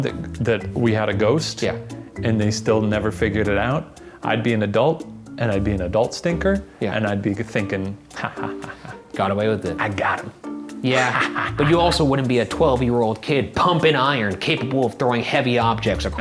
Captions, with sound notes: that we had a ghost, and they still never figured it out, I'd be an adult, and I'd be an adult stinker, and I'd be thinking, ha ha ha ha. - Got away with it. - I got 'em. (chuckling) - Yeah, but you also wouldn't be a 12-year-old kid pumping iron, capable of throwing heavy objects